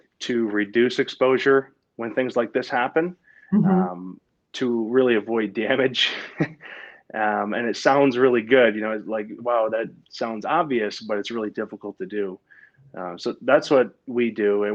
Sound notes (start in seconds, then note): 6.0 laughs